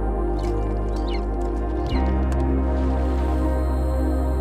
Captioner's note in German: Adler Gezwitscher